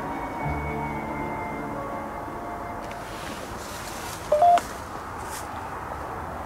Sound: ghost tube warning sound

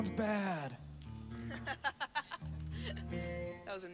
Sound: laughing

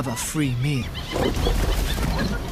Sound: snarling

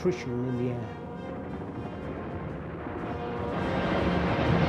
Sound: planes zooming

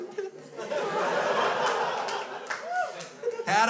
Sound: crowd laughs

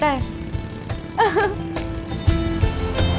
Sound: laughing

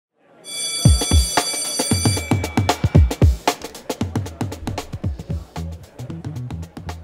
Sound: bell rings; upbeat music

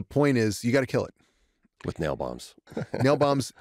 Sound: chuckles

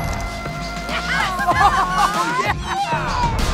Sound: laughter

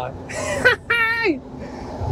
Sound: laughing

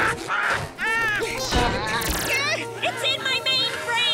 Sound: gasping

